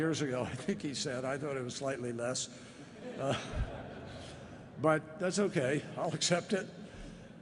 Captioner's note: laughter